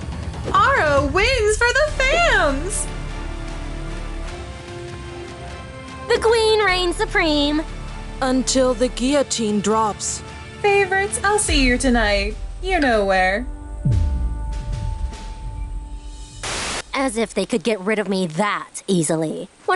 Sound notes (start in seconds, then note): none